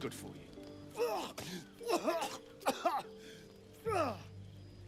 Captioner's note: Astarion gagging and coughing